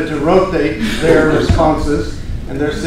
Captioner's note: laughter